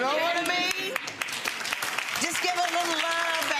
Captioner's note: audience applauding